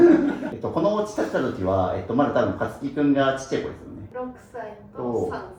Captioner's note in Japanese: 笑い